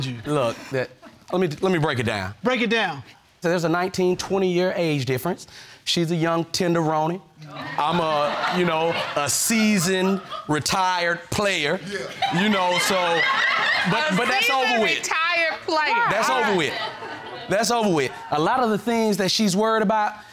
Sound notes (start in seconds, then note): 7.4 audience laughing